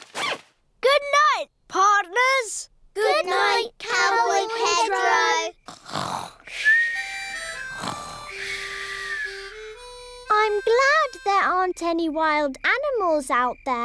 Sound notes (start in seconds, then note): 5.0 all snoring